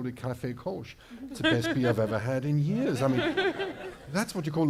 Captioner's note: laughter